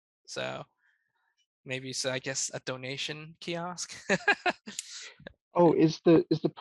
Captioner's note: laughs